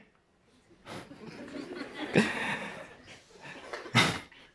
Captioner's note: laughter